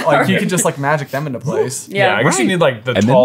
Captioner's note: imitating hoops appearing